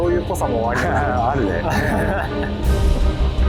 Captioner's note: laughs